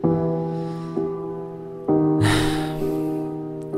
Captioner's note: sigh